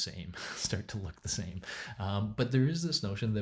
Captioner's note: chuckling